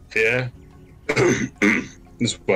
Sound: clearing throat

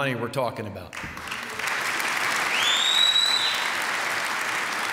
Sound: applause

